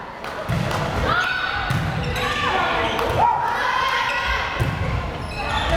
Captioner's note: players shouting